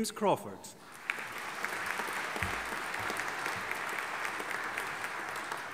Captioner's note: audience applauding